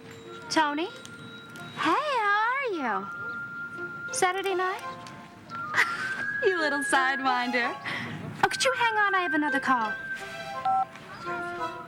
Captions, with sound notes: Tony? Hey, how are you? Saturday night? -[laughs] -You little sidewinder. Oh, could you hang on, I have another call.